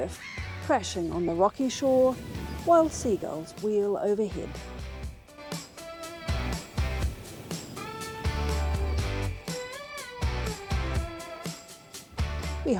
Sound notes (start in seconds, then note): 5.7 gulls calling, wind and waves